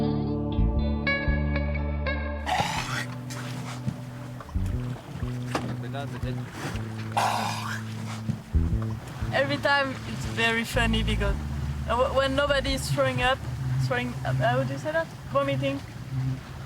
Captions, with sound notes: (vomiting) - Every time, it's very funny because when nobody's throwing up, throwing, how would you say that? Vomiting.